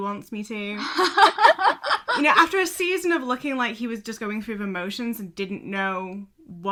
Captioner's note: hosts laugh